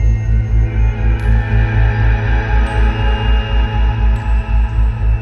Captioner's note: creepy sounds